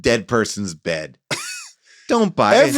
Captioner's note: laughs